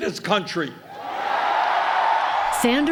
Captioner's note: cheering and applause